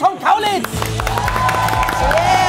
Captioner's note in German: Jubel, Applaus